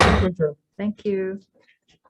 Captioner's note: gavel bangs